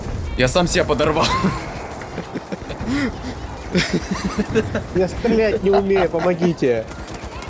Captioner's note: laugh